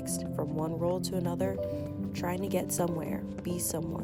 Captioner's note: none